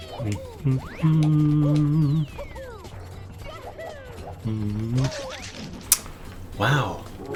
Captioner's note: humming